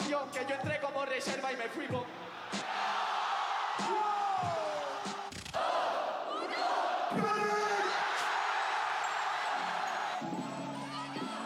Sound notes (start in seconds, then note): 2.6 crowd; 5.6 crowd; 8.7 cheers